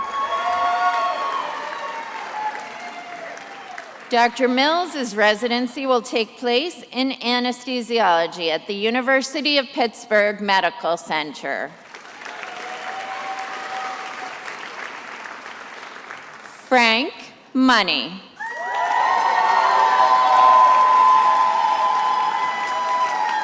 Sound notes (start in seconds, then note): 0.0 attendees applauding and cheering; 11.8 attendees applauding; 18.4 attendees applauding and cheering